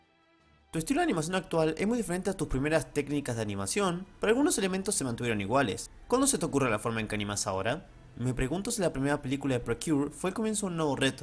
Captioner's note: reading the same thing is Spanish